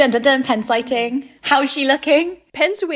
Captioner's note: bell ringing